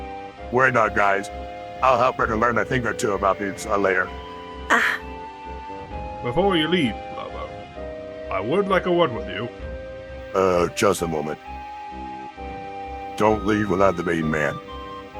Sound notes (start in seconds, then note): 4.3 Ryoko Scoffs